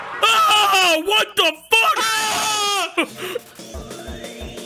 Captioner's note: yells